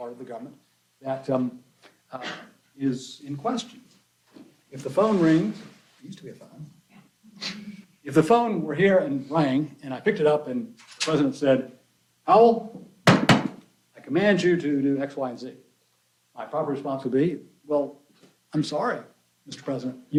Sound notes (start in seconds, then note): 13.0 knocks